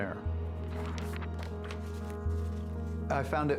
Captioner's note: pages turning